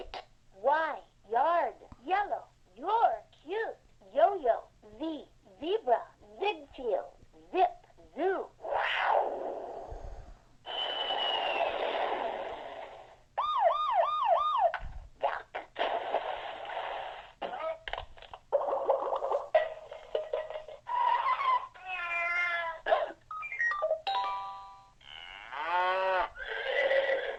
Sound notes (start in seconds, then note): 9.5 siren; 11.9 animal sounds with mouth and toy instruments